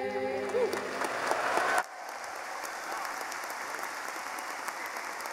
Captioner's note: applauding